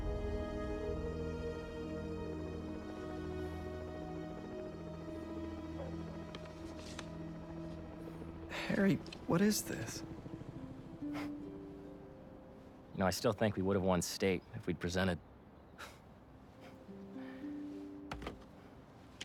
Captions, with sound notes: Harry.. what is this? (laugh) You know I still think we would have won state, if we’d presented. (laugh)